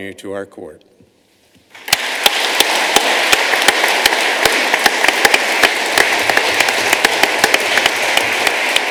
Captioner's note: applause